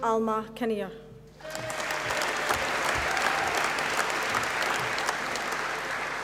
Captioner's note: applause